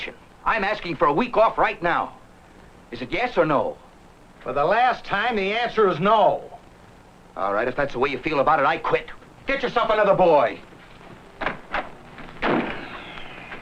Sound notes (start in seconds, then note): 12.4 slam!